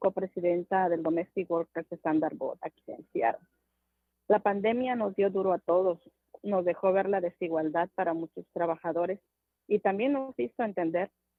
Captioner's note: speaking non-english